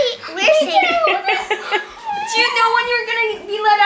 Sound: laughing

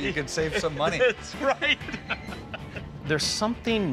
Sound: laughs

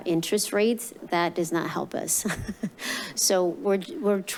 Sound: laughs

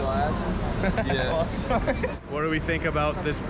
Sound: laughs

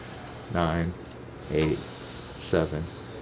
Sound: exhaling loudly

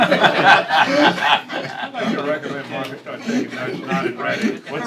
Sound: laughter

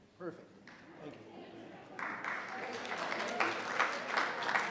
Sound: audience applauding

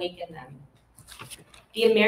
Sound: paper rustling

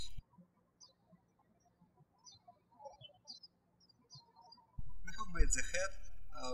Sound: birds chirping

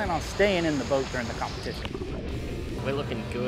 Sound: water rushing

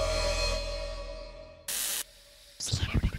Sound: static buzzes

